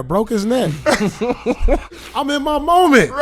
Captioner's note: laughing